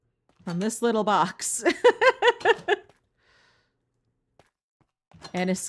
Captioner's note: laughing